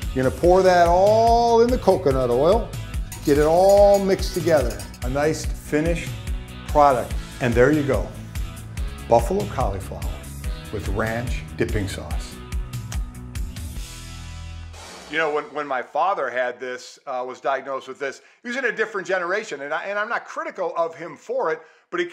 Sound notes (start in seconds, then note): 12.8 muah; 13.7 upbeat music ends